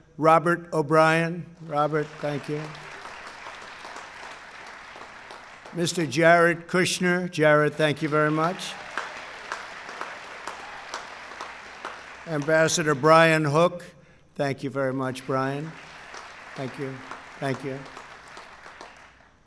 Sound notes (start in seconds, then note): 0.0 applause; 2.8 applause; 8.6 applause